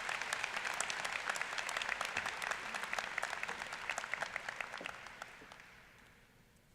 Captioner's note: applause